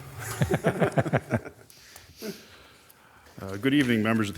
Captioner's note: crowd laughs